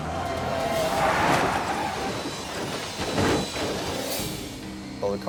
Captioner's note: vehicle slams